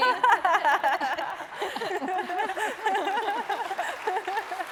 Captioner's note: laughing; applause